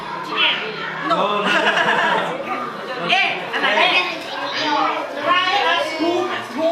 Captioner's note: foreign language; all laugh; foreign language; people chatter